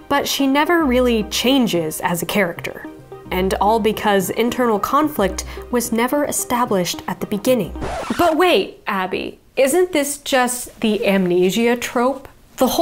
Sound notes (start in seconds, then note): 7.7 record scratching